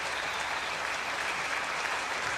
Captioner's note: crowd cheering